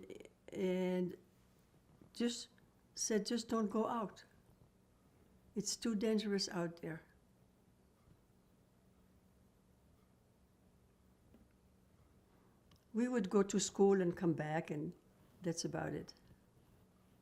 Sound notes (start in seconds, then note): 6.6 pauses 6 seconds